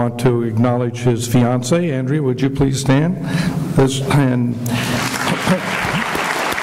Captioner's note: clapping